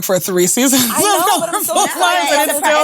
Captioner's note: laughing